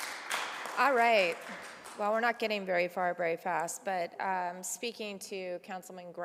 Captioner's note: applause